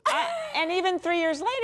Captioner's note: laughter